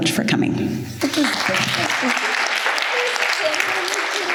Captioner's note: applause